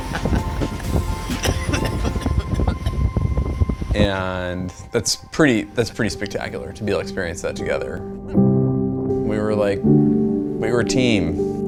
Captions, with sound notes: (laughing) (coughing) And that's pretty spectacular, to be able to experience that together. We were a team.